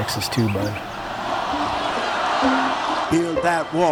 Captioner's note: chanting